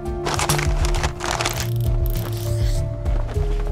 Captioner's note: graphic crunching